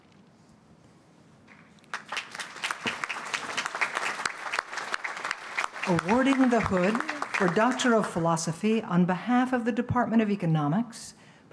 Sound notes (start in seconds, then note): 1.5 applause